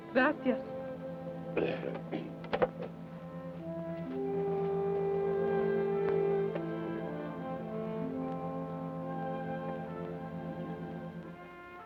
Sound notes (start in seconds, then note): 1.5 Carney clears his throat